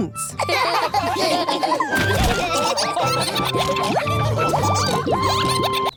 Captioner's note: all laughing